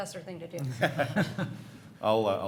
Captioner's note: all laughing